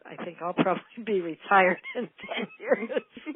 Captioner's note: laughing